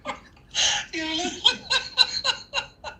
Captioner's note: loud Laughing!